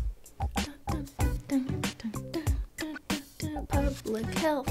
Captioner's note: hums the intro